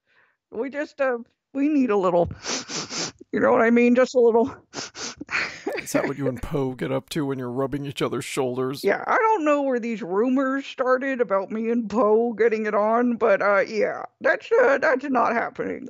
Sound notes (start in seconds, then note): 2.4 sniffs loudly; 2.4 sniffs again